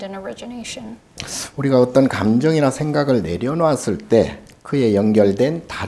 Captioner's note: speaking Korean